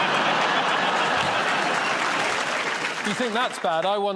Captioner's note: laughter